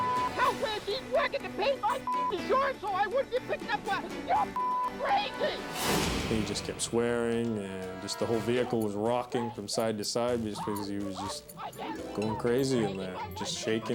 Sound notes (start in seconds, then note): 2.0 beep; 4.5 beep; 5.5 graphics whooshing